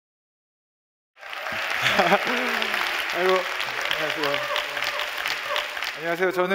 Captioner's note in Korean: 박수와 환호